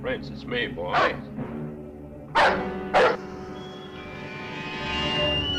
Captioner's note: dog barking; suspenseful music